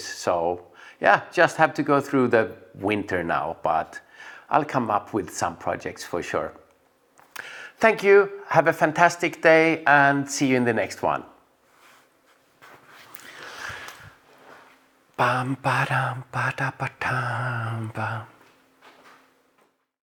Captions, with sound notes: So yeah, just have to go through the winter now, but I'll come up with some projects for sure. Thank you, have a fantastic day and see you in the next one. [Hums]